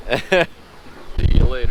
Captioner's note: laughs